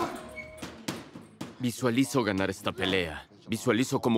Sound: gruñidos

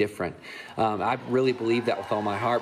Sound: crowd cheering

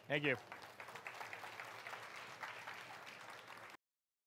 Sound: crowd clapping

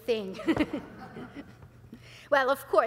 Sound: audience laughs

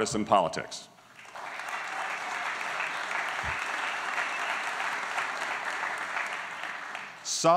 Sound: applause

